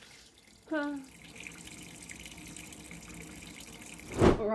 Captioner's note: running water